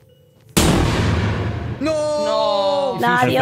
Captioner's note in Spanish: Estallido de globo